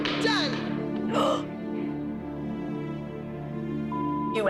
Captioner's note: gasps